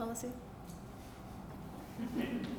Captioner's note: laughter